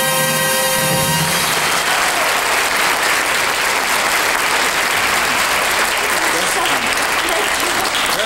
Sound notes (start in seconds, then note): 0.7 audience clapping